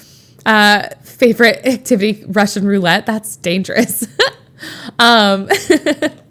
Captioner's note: Emma laughs